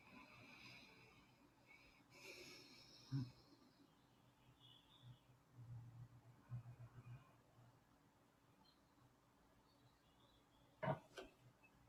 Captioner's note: silence